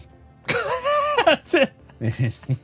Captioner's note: laughs